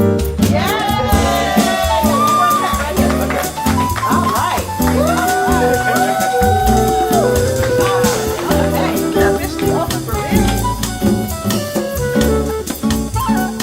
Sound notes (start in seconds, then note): 0.7 clapping and hollering; 5.1 hollering; 7.1 background talking